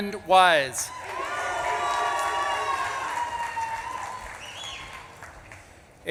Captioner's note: audience claps and cheers